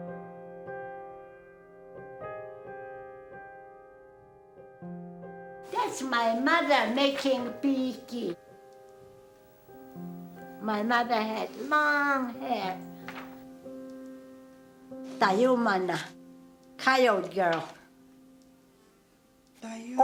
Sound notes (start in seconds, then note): 0.3 calming music continues; 13.4 speaking foreign language